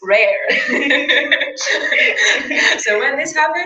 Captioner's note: laugh